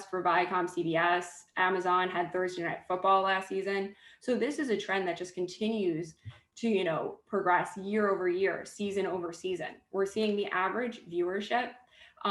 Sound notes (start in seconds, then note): none